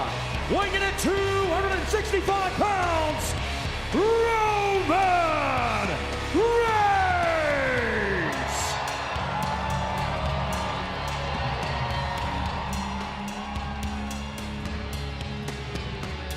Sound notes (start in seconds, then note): 9.1 crowd cheering; 9.1 dramatic music